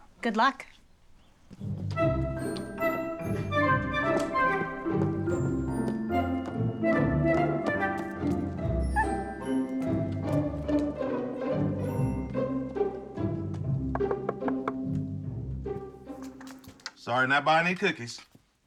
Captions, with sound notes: Good luck. [squeaks] [knocks] Sorry not buying any cookies.